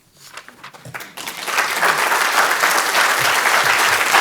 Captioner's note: crowd applauding